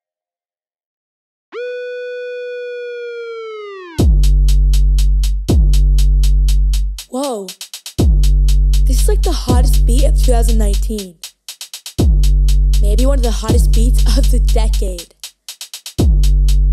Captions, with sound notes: (siren) (slow beat) Whoa, this is like the hottest beat of 2019. Maybe one of the hottest beats of the decade.